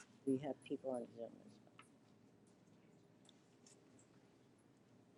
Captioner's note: speaks faintly